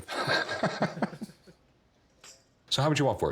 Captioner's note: both laughing